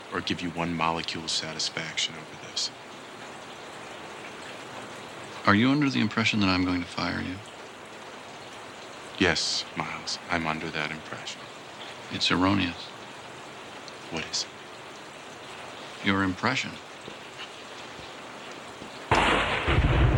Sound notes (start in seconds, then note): none